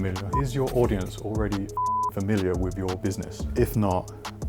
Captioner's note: beep